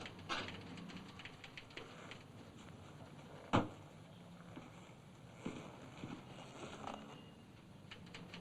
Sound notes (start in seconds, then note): 3.5 thump